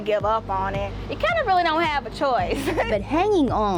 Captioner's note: laughs